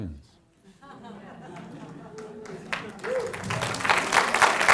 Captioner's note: students chuckles; audience applauds